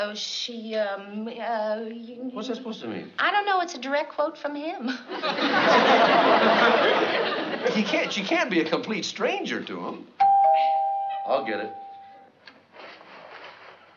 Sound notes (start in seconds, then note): 10.2 doorbell ringing